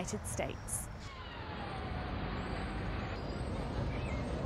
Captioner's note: traffic noise